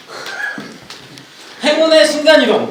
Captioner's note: kkkk